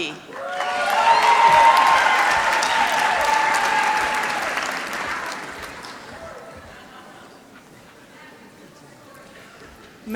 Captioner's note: applause